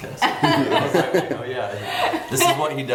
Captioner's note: laughing